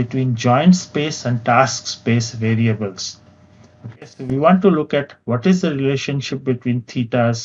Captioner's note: vocalized- noise